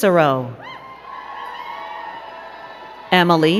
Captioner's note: crowd cheering and clapping